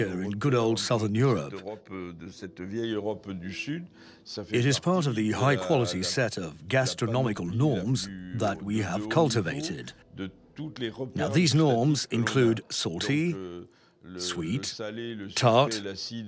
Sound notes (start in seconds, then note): 2.1 speaking in foreign language